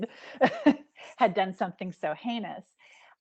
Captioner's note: chuckling